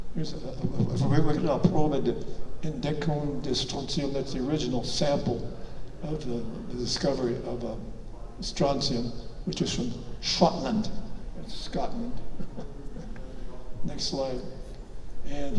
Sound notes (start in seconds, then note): 12.3 chuckles